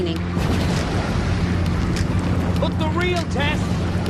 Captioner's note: heavy explosions